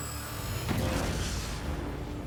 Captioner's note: explosion